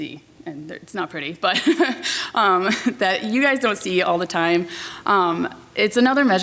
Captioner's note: laughs